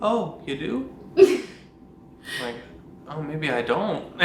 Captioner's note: laughs